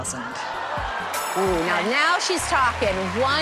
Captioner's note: cheers and applause